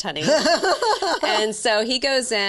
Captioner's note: laughing